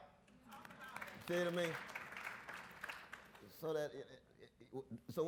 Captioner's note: audience applauds